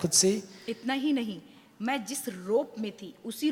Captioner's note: speaks foreign language